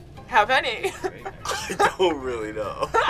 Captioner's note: interviewees laughing